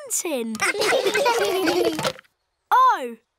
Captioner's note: laughter